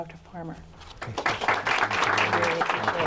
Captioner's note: applause